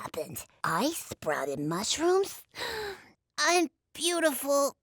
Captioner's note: gasp